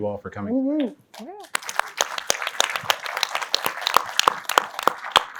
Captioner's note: applause